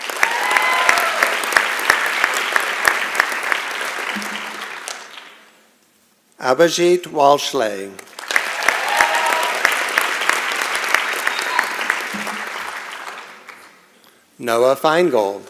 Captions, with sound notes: [ Applause and Cheering ] Abizheet Walshlay. [ Applause and Cheering ] Nella Feingold.